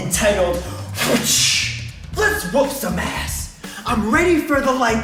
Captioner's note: whip crack noise